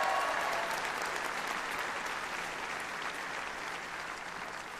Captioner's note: applause